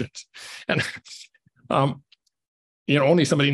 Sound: scoffs

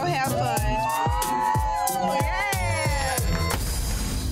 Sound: crowd cheers

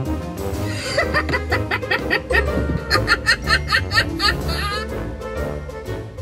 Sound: laughing

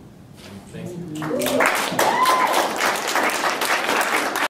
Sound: applause

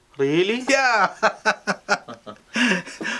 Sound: laughs

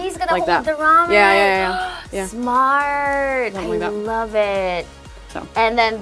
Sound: gasp

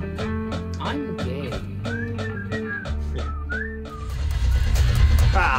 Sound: chuckles

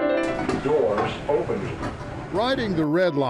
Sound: Electronic voice

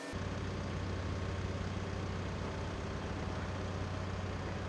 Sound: engine revs

